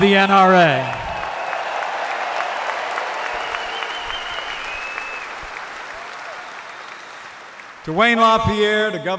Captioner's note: applause